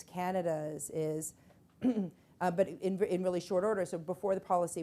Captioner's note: clears throat